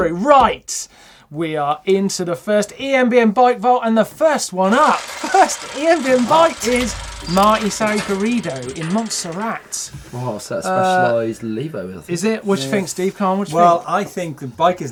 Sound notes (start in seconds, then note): 4.6 gears turning